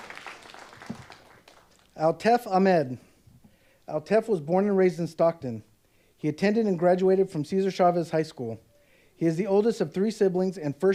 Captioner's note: applause